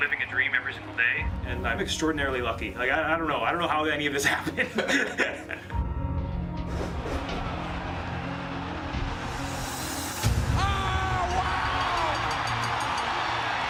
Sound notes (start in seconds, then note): 8.5 crowd cheering; 13.4 bell ringing